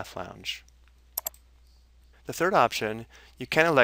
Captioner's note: mouse clicking